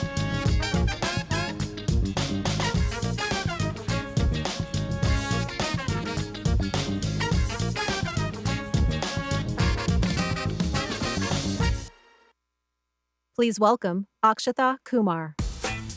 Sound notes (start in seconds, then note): 6.0 upbeat jazzy music continues; 11.6 music stops